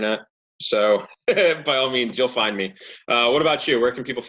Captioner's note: laughs